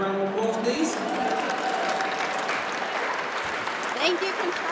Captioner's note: audience applauds